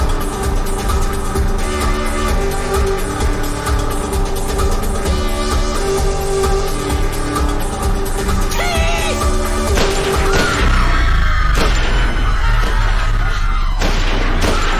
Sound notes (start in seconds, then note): 9.8 gunfire; 10.0 crowd screaming